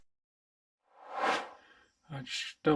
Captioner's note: air swooshes